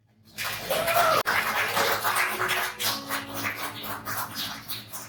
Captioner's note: audience applauding